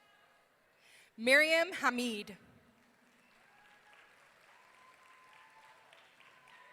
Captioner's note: audience cheering